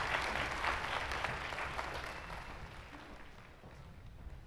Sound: applause

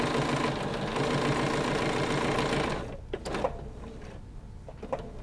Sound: sewing machine whirring

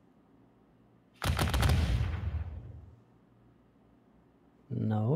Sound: volley of booming sounds

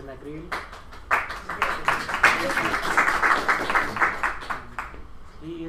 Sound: clapping

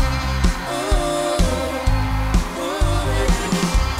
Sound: crowd cheering

